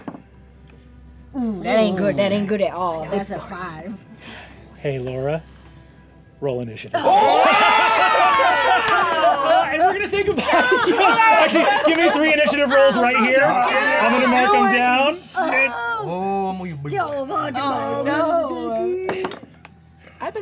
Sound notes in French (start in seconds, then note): 8.4 acclamations